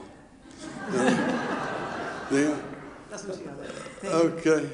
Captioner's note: audience laughing